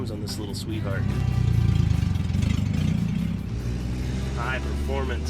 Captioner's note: engine roaring